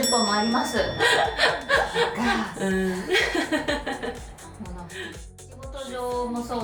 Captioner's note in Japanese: 笑い